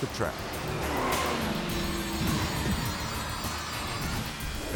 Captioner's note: tires screeching